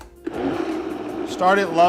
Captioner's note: blender rumbling